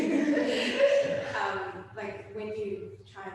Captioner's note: all laughing